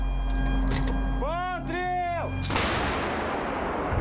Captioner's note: yells in ukrainian; cannon booms